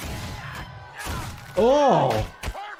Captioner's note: Blitzo grunting